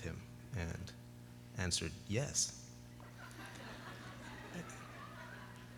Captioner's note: laughter